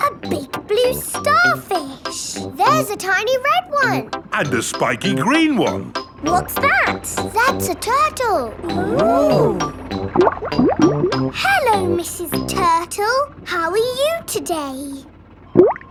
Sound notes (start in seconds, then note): 10.4 bubbling; 15.5 bubbles; 15.7 laughing